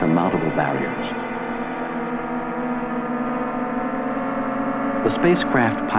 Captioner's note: intense whirring